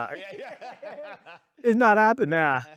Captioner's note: laughing